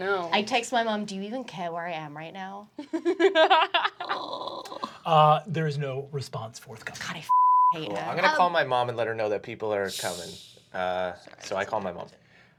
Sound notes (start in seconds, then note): 2.9 laughing; 7.3 beep